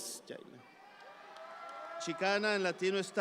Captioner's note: audience applauds